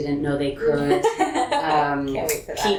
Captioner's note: laughter